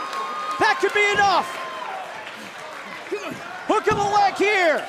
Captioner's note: cheers & applause